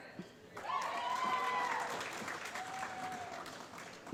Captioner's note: applause